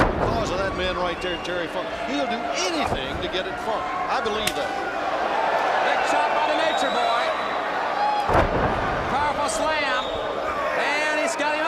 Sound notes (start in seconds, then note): 5.9 crowd cheering